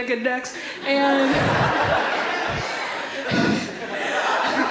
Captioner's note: audience laughs